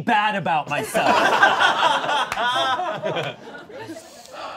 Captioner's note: all laughing